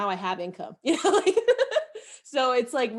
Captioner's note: laughs softly